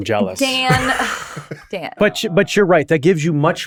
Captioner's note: laughing